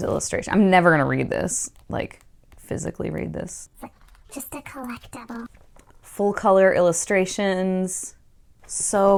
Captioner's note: higher pitched voice